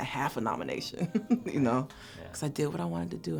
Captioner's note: laugh